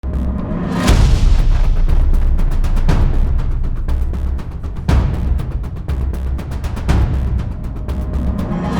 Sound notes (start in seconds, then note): 0.7 sound of an Explosion